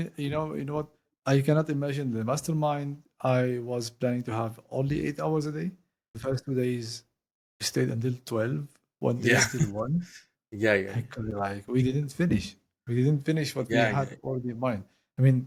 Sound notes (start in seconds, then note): 9.2 laugh